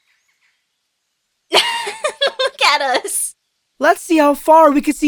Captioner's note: laughs